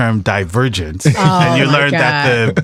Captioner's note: laughs